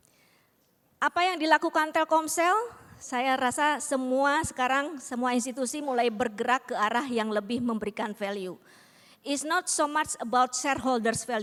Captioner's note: non-english speech